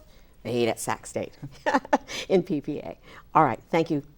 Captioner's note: laughs